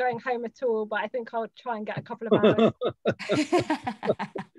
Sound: laughter

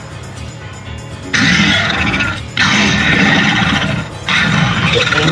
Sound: Indoraptor growling

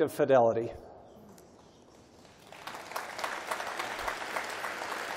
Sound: applause

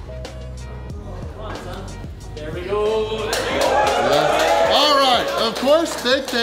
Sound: crowd

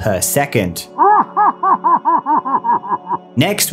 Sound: evil laughter

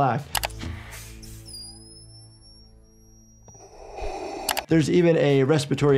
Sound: vacuum seal squealing

